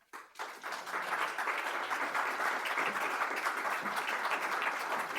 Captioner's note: audience applaud